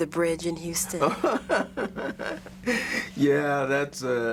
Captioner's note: laughs